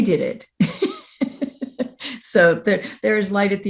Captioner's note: laughs